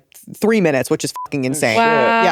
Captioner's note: beep